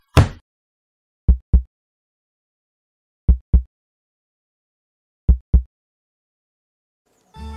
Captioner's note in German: Herzschlag